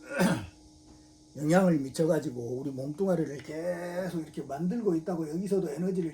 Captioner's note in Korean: 목을 가다듬음